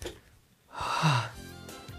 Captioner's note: sigh